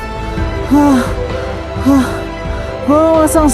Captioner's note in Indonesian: Suara napas terengah-engah